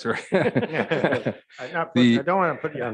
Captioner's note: all laughing